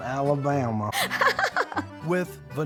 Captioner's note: chuckling